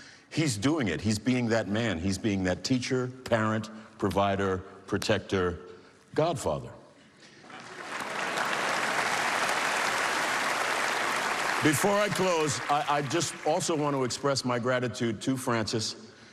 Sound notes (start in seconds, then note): 7.6 cheering and applause